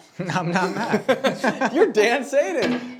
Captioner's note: laughing